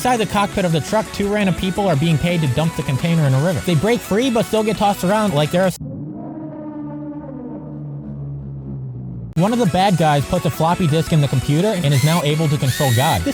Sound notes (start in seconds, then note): 5.8 cursed sound effect